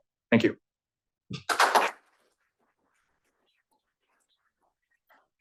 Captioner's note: applause